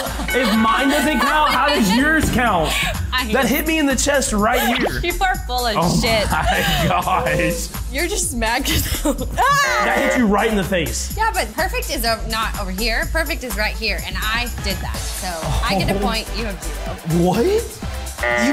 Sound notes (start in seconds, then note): 0.1 Brittany laughs; 9.0 chuckles; 9.6 buzzer buzzes